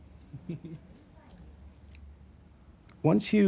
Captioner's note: chuckles